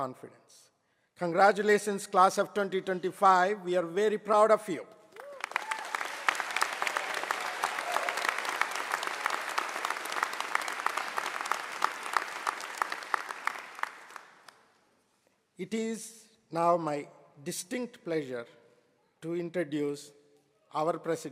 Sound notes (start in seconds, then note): 5.1 applause